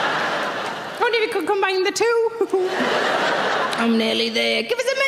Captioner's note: audience laughing; laughing